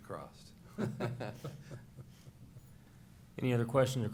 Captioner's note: chuckles